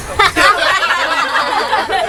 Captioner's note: nervous laughter